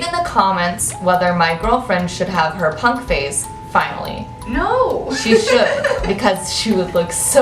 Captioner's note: laughs